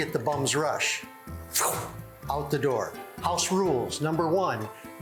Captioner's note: poof